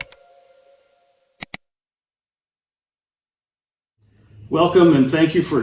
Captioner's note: mouse clicks